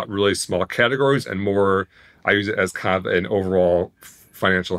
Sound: none

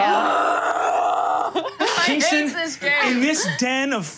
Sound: screams

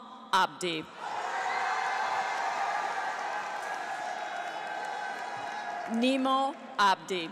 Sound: cheers; audience applauds

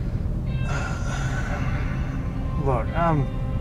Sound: sighs

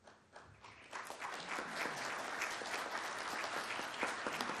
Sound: audience claps

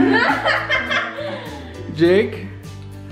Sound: laughs

